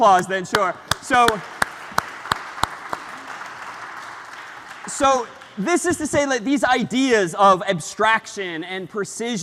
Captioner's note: ปรบมือ